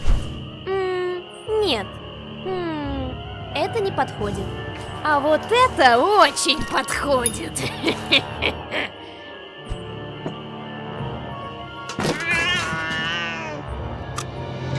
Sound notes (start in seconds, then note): 7.6 evil laugh